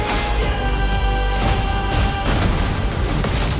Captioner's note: thunderous combat